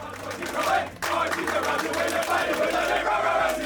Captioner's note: team chanting